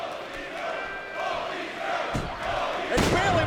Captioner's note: crowd chants indistinctly